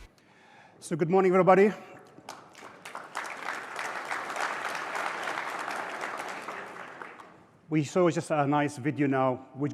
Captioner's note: applause